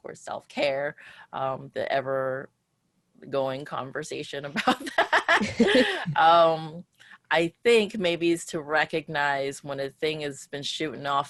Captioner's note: laughs